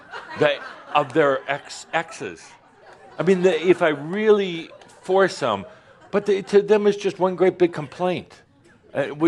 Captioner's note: more laughter